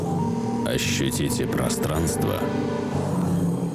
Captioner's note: motor noise